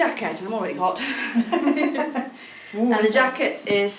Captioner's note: laughing